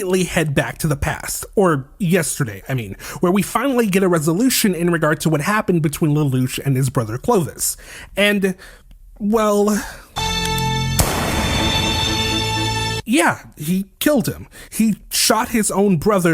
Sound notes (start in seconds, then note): 10.9 bang